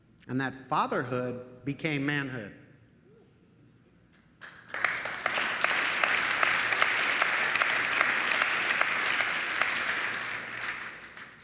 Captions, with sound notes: And that fatherhood became manhood. Woo. [audience applauding]